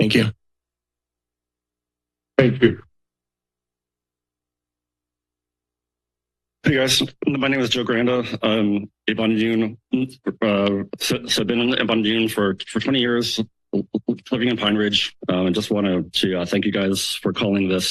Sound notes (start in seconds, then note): 3.3 silence